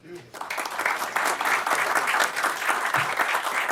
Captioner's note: applause